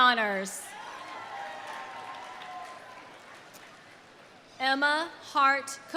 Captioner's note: audience cheering; audience applauding